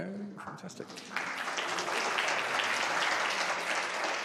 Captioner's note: applause